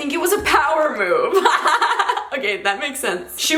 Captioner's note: giggles